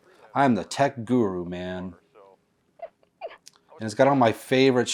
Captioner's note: Georgia laughs